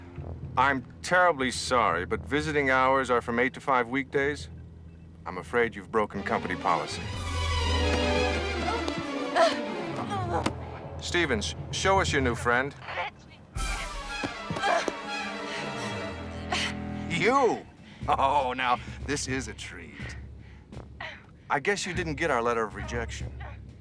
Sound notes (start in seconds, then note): 6.1 dramatic music; 7.1 grunting; 13.6 dramatic music